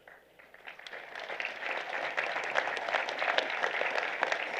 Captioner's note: applause